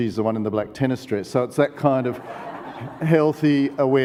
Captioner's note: audience laughs